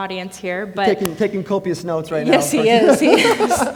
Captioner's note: laughs